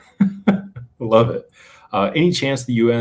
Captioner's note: laughter